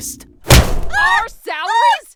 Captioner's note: thud